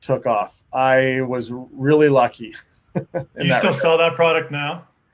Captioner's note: giggling